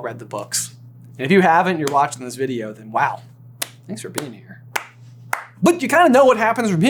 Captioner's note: slow clap